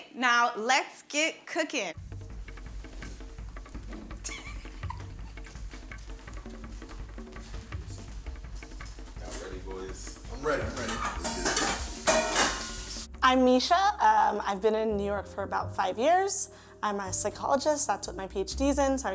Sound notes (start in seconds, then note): 3.2 suspenseful percussion music; 9.9 pots and pans clanging; 11.5 water running